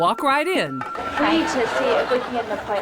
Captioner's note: audience laughs